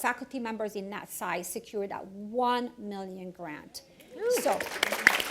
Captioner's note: applause, cheers